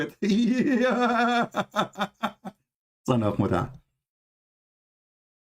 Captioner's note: Ketawa